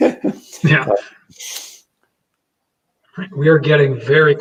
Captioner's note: both laughing